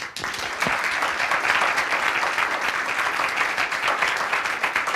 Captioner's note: audience applause